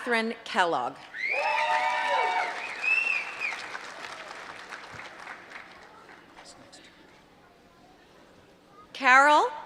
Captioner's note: applause